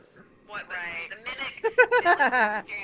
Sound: laugh

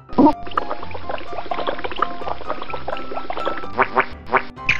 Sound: water running

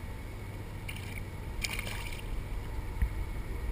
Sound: splash

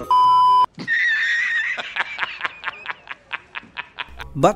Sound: laughing

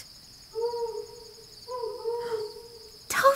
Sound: owl hooting

